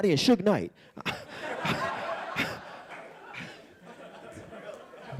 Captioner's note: audience laughing